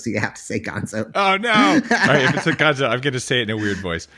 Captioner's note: laughs